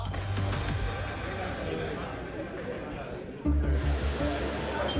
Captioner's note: patrons chatter